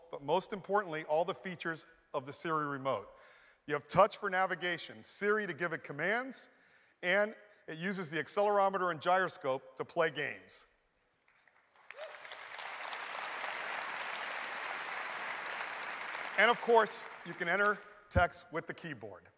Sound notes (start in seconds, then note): 11.2 applause